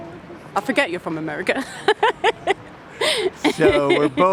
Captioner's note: laughs